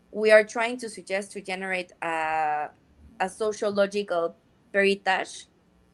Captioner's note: speaks in Spanish